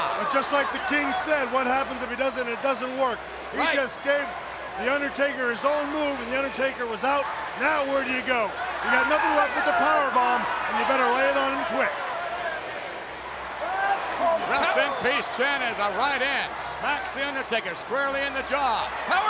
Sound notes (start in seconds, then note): 12.5 audience chanting